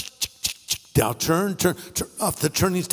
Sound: clicking

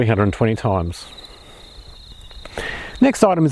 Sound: birds chirping

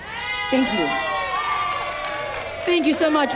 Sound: audience cheering

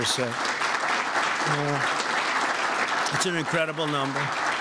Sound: applause

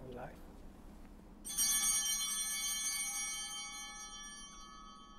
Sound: bells ringing

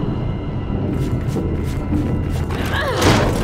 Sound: thunder rumbling

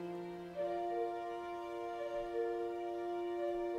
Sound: cuckoo heard in the distance

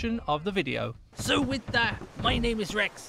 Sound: in Pirate Voice

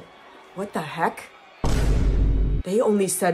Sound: boom

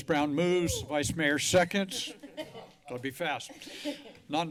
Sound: laughter

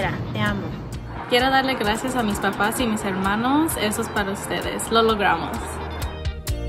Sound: speaks in foreign language

